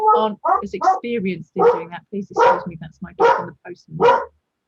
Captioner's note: dog barking